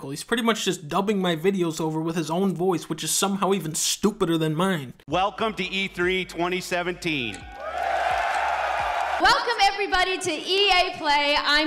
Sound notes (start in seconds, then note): 7.4 crowd